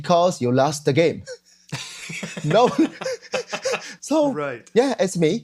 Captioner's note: laughs